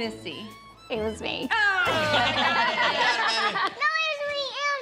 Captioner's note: laughter